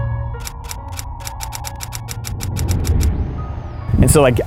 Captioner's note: camera shutter clicking